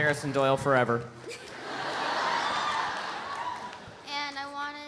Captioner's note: girl giggles; audience laughs